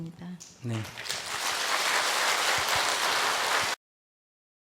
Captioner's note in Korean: 청중 박수